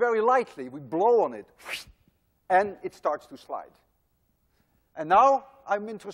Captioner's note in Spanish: Imita soplar